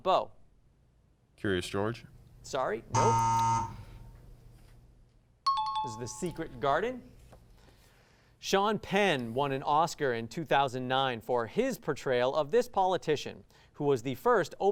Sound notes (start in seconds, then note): 2.9 times up ring